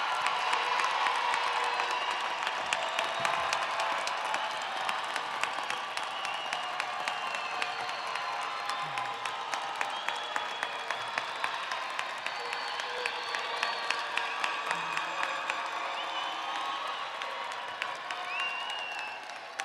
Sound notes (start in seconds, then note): 1.2 audience applauding; 1.2 audience cheering